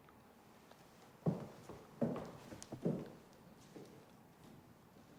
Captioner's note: footsteps tap